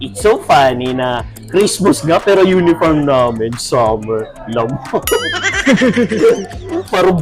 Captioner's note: laughs